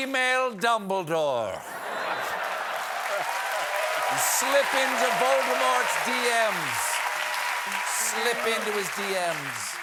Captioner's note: laughter